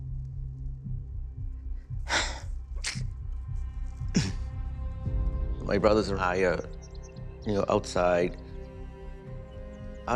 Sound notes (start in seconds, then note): 1.7 sighs, clears throat